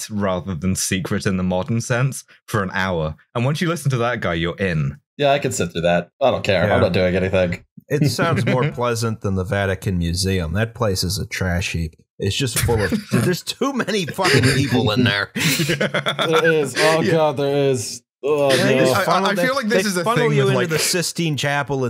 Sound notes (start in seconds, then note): 8.0 laughter; 12.6 laughter